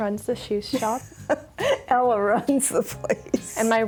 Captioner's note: laughs